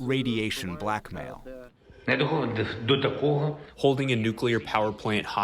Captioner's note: through translator